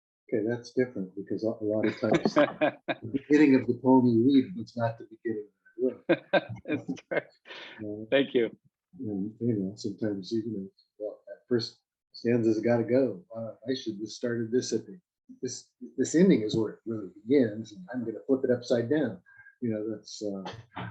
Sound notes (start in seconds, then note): 5.8 laughs